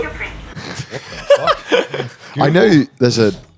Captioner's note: laughing